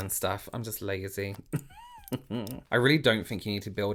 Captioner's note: chuckles softly